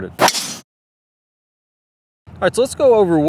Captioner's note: golf club striking ball